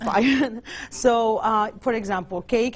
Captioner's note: chuckles